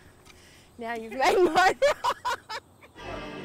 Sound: laughs

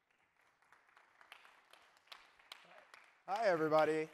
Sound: applause

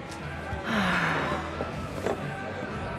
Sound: sighs

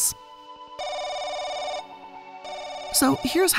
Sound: telephone rings

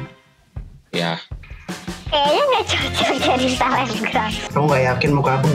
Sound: laughing

